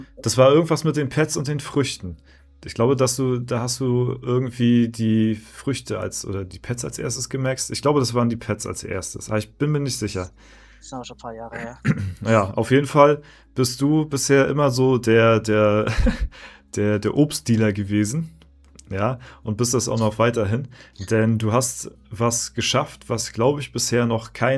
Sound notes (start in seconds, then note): 11.6 clears throat